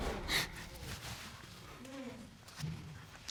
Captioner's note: sobs